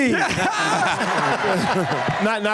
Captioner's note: laughter